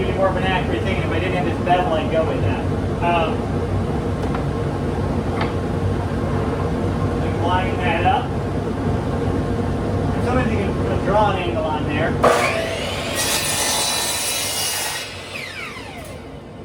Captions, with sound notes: more of an accurate thing. If I didn't have this bevel, I'd go with that. Line that up. And sometimes you can just draw an angle on there. [SAW MOTOR WHIRS]